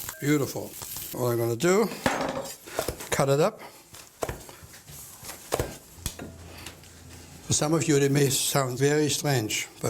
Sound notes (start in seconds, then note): 4.3 chopping